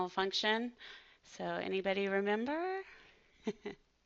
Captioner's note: laughs